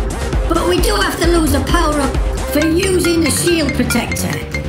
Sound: mobile phone ring tone

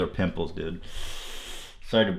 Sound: sharp inhale

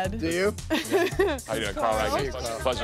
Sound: chuckles

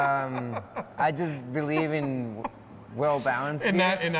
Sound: laughs

